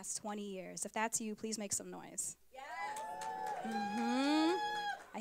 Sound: applause

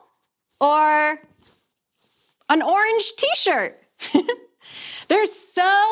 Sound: chuckles

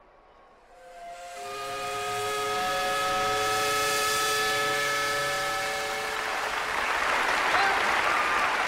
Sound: steam whistle

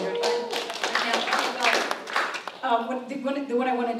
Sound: applause

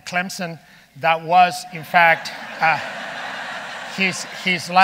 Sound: audience laughing

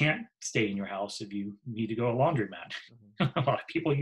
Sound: laughs

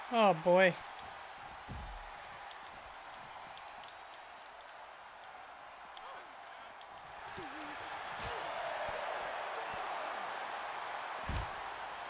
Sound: applause

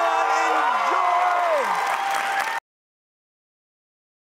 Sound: crowd cheers

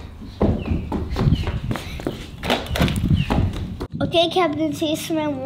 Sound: footsteps pounding

